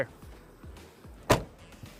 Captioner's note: door closes